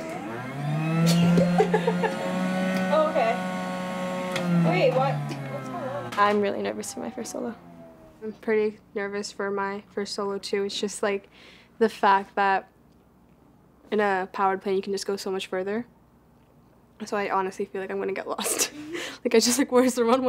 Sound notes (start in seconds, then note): 0.0 motor whirs loudly to life; 3.5 motor turns off; 19.0 laughs